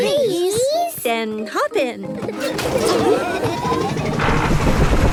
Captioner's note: laughing